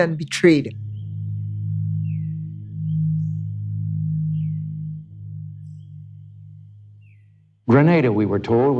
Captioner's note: soundbite of archived recording